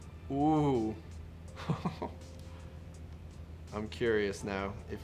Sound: chuckles

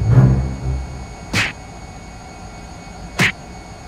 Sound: dramatic music; smack; smack

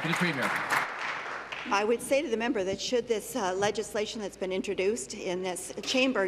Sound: applause

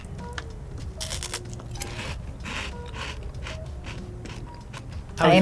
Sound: crunching

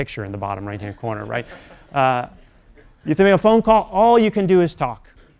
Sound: laugh

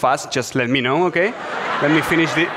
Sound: audience laughs

